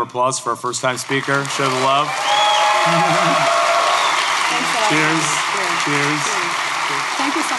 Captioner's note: applause